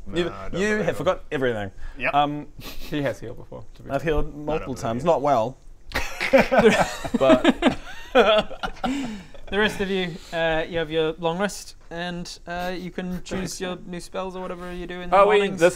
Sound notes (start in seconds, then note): 6.2 painful laugh; 8.1 laughs in no regrets